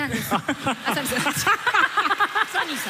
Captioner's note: laughter